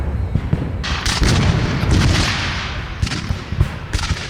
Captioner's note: guns fire